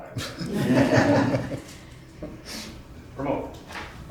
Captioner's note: audience laughs